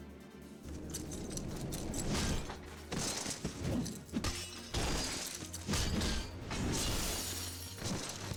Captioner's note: explosion